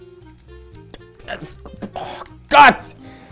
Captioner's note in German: Flotte Musik; Genervte Laute